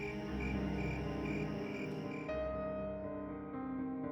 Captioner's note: crickets chirping